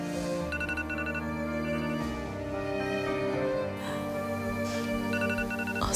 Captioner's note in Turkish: Telefon çalar